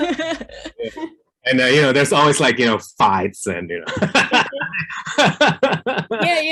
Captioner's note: laughs